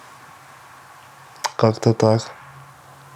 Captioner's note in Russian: цокает